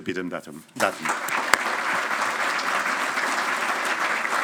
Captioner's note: audience applauding